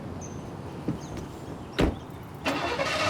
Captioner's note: engine turns over